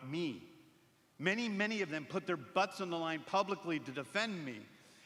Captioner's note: none